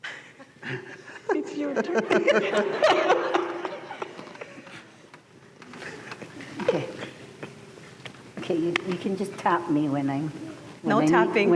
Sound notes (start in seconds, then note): 0.0 giggling; 2.7 laughter